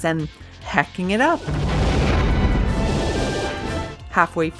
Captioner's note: shooting sounds